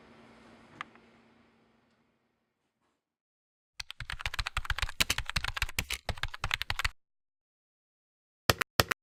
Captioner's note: typing